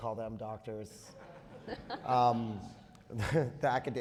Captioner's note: all laughing